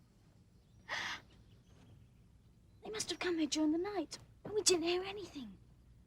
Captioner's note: gasps